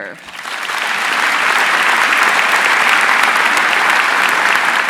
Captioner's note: audience applauding